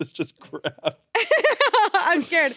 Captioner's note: laughs